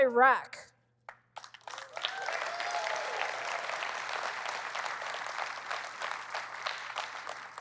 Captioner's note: cheering